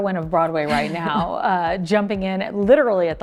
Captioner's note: Amy chuckling